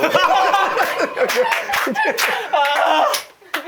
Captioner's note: clap / Clap